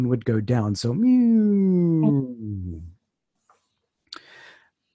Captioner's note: decrescendo Tone